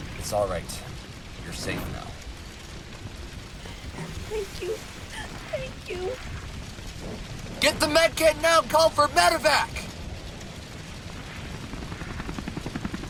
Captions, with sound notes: It's alright. You're safe now. Thank you! Thank you! (sobbing in voice) GET THE MEDKIT NOW AND CALL FOR MEDEVAC!